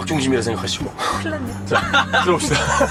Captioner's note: nervous